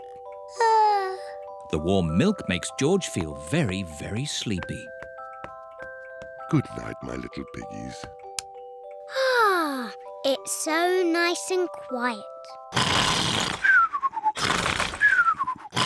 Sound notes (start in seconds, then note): 0.8 yawns; 9.1 sighs happily; 12.7 george snores loudly